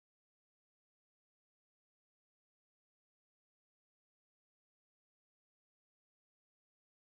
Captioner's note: none